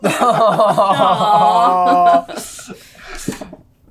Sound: laughs

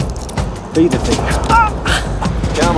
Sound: yelp/grunt

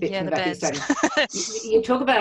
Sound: laughs

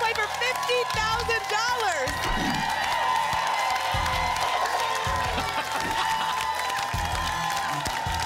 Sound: applause and cheering

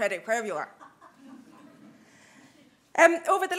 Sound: chuckles

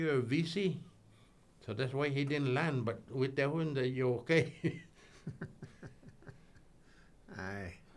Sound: laughing

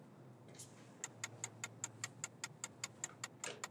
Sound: ticking

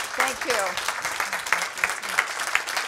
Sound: applause

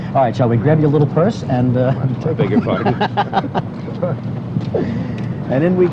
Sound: laughter

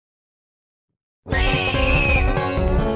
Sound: spooky scream

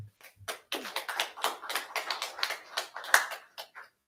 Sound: audience clapping

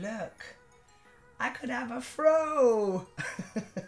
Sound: laughs

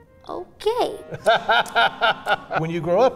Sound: laughs

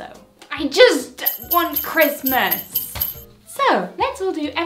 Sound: bells ringing

